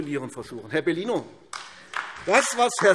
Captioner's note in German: Beifall AfD